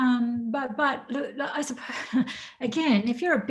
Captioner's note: laughs